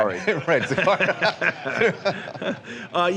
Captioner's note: laughter